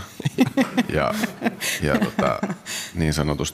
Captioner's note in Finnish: Juontaja nauraa